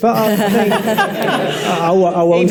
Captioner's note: audience and panel laughs